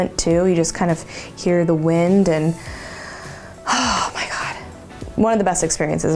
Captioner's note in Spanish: suspiro